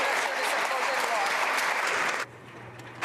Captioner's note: applause